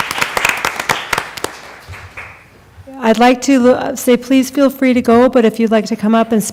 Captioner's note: applause